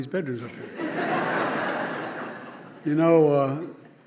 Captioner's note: laughter